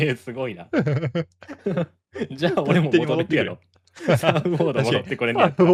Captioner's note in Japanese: 笑い